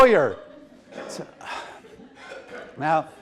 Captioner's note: audience laughs